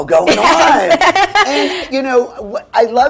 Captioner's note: laughs